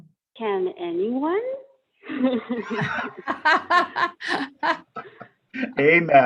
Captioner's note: laughter